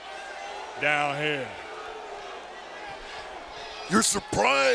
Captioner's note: audience booing